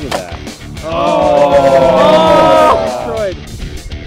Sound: all groaning

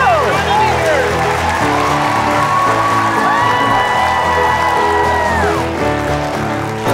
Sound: audience cheering; upbeat music

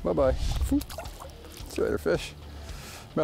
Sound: fish splashing

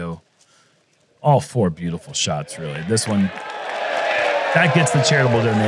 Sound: cheering

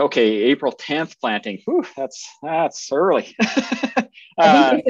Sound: laughs

